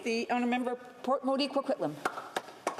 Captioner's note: some Applause